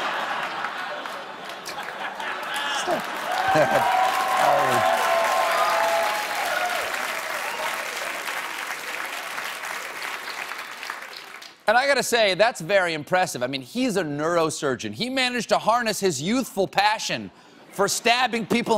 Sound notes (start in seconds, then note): 0.0 applause; 0.8 laughter